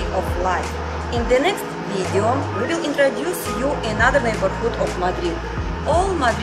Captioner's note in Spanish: Street Noise